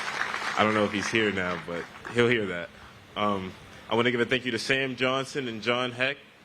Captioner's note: applause